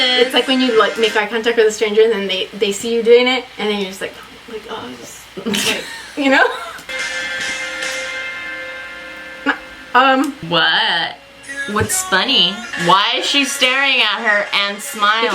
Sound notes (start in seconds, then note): 5.3 laughs; 9.7 laughs